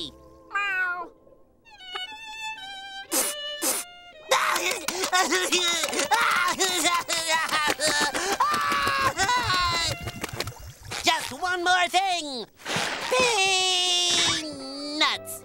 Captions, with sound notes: Meow. [sniffling] [crying] Just one more thing, peanuts.